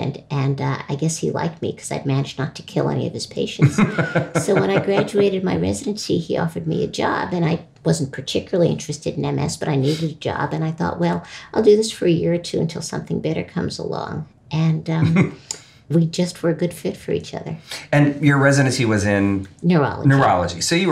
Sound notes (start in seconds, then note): 3.6 laughing